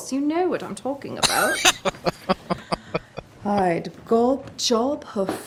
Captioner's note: laughing